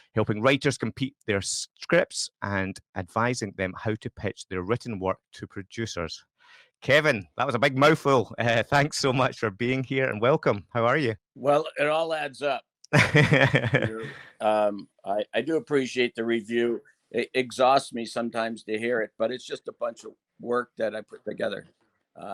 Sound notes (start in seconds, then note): 12.9 laughs